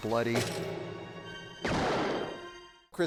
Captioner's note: carriage thuds; gun blasts